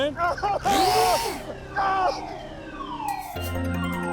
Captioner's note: man screams; machine whirs; upbeat music